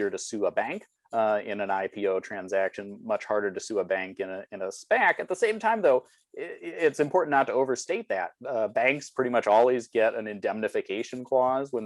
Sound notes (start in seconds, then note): none